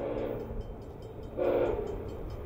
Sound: longer, closer honk; honk!

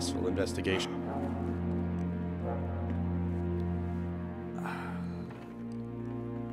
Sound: sigh

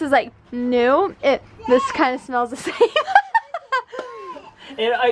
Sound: laughs

